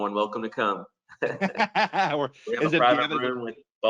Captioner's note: both laughing